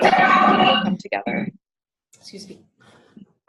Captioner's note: coughing